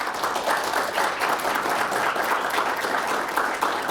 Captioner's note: audience applauding